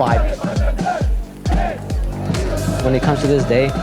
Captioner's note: crowd cheering